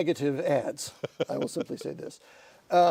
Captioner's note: laughter